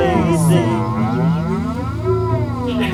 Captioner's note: sheep cries